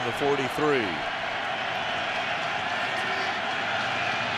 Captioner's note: cheering